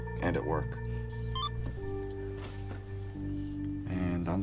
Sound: phone beeps

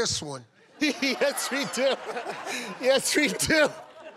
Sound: laughing

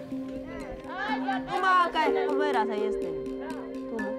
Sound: speaking foreign language

